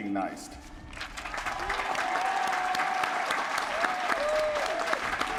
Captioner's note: applause